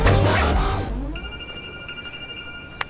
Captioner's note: Phone ringing